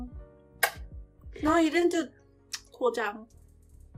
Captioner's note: kiss